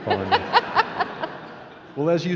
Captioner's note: laughing